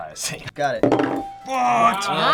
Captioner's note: ding